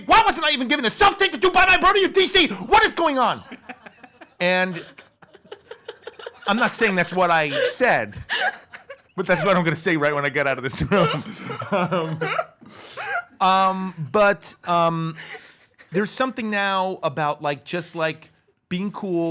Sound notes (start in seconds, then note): 3.5 laugh; 10.6 laughs